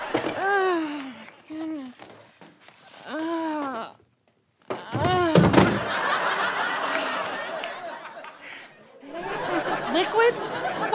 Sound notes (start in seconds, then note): 3.0 groaning; 5.0 laptop clatters; 5.8 audience laughter